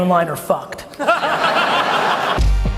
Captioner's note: audience laughs; hip hop music